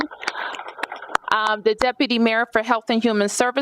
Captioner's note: applause